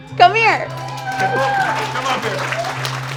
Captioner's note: audience applauding